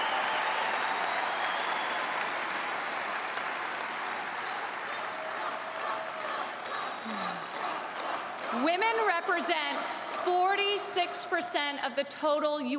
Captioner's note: cheering and Applause